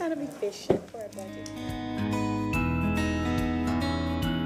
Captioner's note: sounding gavel